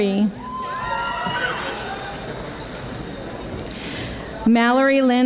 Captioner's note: audience applauding